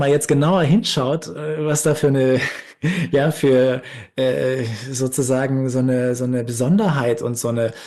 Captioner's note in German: gelächter